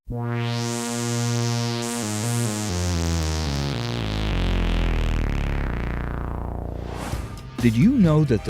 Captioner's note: sound Effects